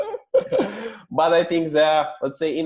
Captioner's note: laughter